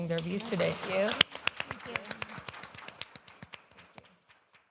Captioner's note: audience applause